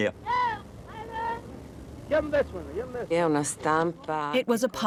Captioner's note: newsie calling out